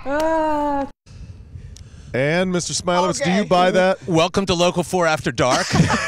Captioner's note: laughter